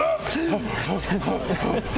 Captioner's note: pants